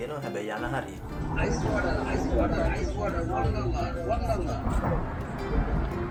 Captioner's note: vendor shouting